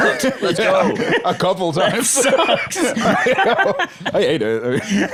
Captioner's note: laughs